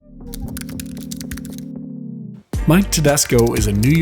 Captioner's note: keyboard clicks